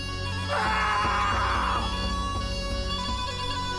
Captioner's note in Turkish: Bağırıyor